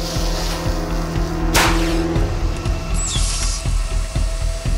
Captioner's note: flare hissing; suspenseful music; flare bangs